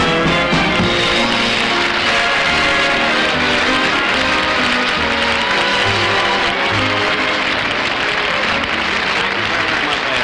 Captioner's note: audience Applauding